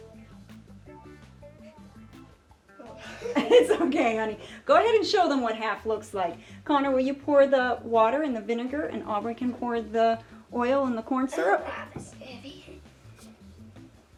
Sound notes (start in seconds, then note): 2.8 laughing